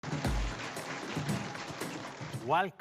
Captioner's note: Samsung members cheer